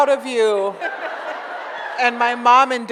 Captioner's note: audience laughs